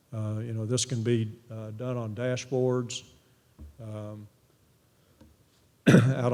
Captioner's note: cough